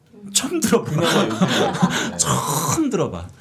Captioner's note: laughing